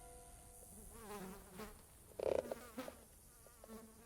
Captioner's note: fly buzzing